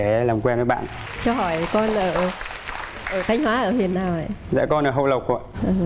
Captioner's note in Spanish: aplauso